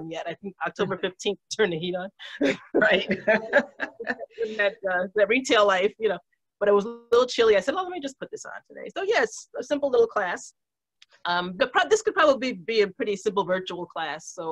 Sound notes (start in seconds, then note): 2.4 laughs